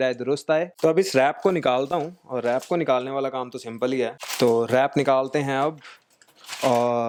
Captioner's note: unwrapping